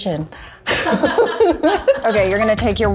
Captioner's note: group laughs